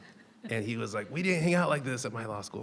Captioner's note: people chuckling